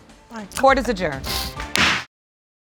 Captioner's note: bangs gavel